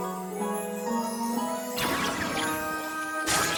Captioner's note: tinkling